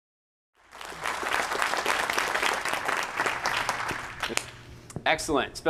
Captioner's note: applause